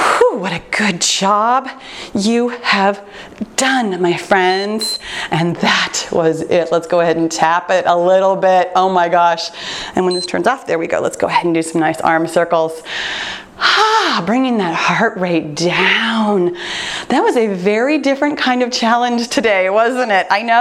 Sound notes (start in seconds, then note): 4.4 timer beeps; 10.0 timer beeps; 14.0 exhales sharply